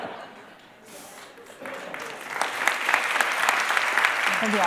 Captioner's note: laughter; applause